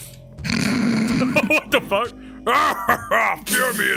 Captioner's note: laughs